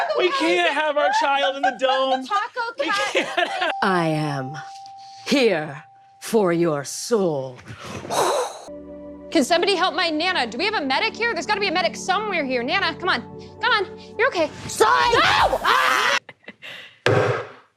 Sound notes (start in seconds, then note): 7.7 incredible cape whoosh; 16.9 sounds of hammer crashing onto a phone & wooden table